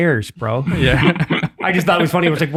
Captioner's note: laughs